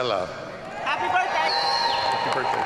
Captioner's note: audience cheering